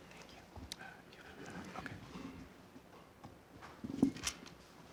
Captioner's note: faint chatter